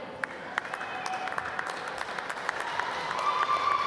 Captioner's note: applause